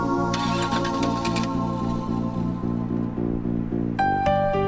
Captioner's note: engine revving